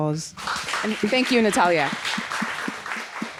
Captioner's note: audience applauds